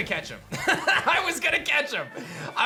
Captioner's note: laughs